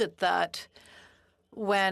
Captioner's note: speaking in French